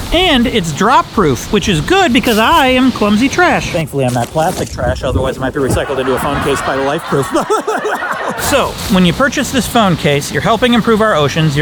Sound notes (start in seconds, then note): 5.6 laughing